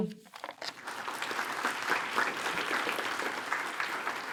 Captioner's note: attendees applaud